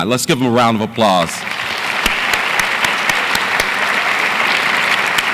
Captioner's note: audience applauds